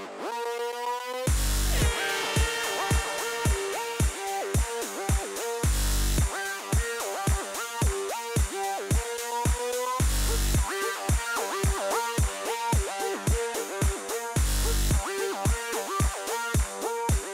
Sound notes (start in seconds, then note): 1.7 airhorns